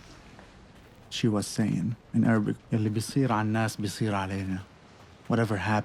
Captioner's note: speaking foreign language